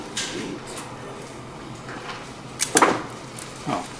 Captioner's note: clicking and whirring